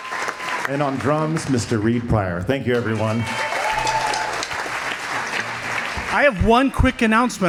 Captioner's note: applause; applause